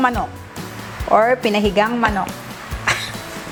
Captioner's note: laughs